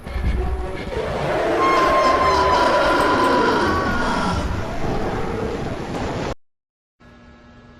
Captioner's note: player screams while voice cracks